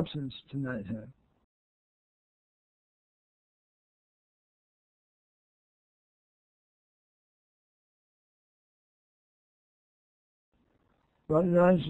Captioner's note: muted